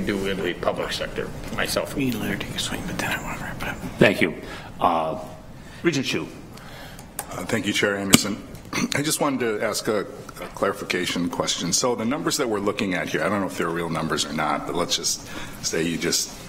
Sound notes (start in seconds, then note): 2.8 whispering